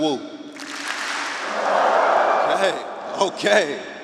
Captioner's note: audience clapping and wooing